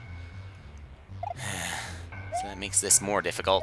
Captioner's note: sigh